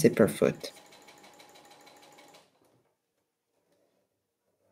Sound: sewing machine whirring

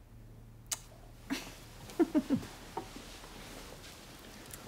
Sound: giggles

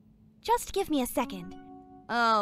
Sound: email notification

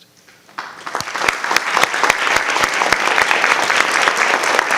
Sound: audience applauding

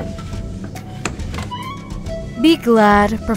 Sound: chair scraping

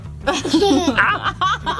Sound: giggles; laughing

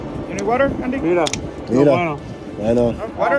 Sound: men speaking Spanish

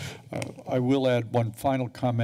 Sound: inhales deeply

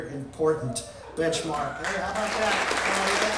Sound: crowd cheering and applauding

